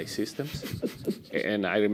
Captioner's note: chuckling